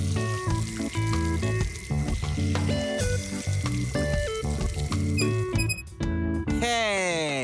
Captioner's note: bouncy funk music; water running; tap squeaking